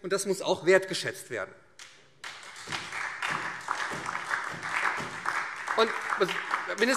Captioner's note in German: Beifall